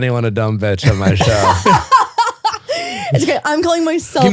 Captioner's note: laughing